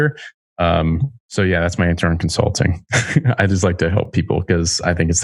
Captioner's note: laughs